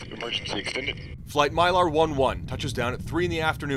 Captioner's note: voice-over